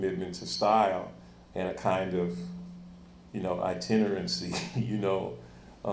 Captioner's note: chuckles